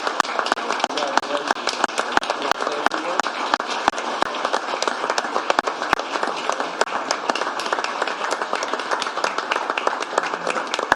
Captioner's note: cheers and applause